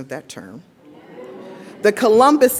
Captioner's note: audience woos